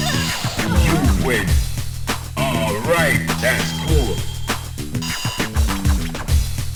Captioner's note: laughs